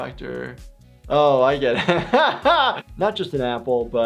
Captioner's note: laughs